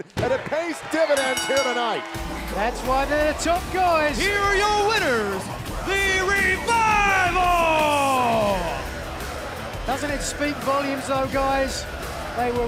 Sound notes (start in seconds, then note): 1.1 bell ringing